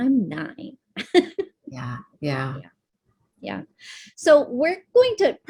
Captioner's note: laughs